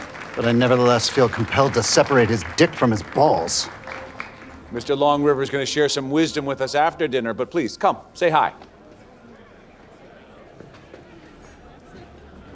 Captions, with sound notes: but I nevertheless feel compelled to separate his dick from his balls. - Mr. Longriver's gonna share some wisdom with us after dinner, but, please, come say hi. (guests chattering)